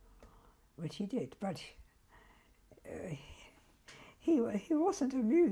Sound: pauses for 3 seconds

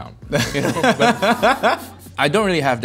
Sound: laughing

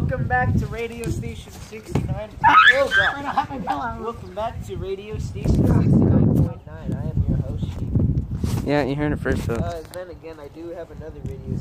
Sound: interrupted by screaming

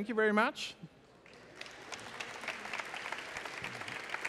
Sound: applause

